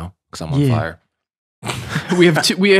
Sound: friars chuckling

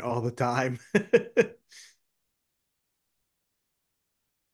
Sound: laughing

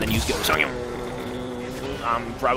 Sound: racecar noises

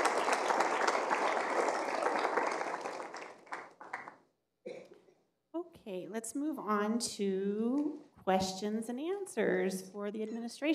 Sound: applause

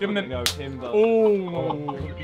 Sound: hand slaps

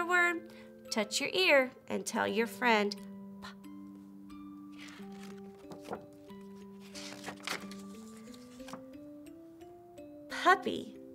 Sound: book opening

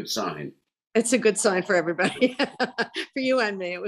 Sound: laughs

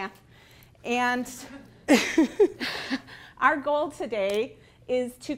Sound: laughing

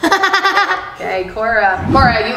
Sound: laughter

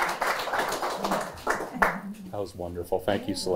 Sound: applause

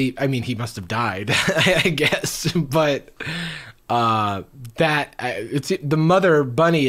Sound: chuckles

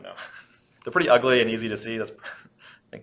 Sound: laughs

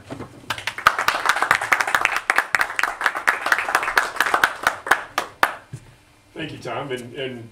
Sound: audience Applauds

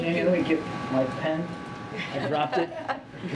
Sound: laughter

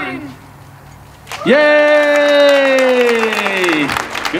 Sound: participants cheering

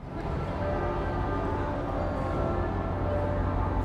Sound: bells ringing

